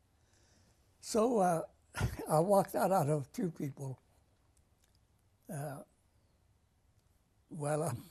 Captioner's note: pauses for 3 seconds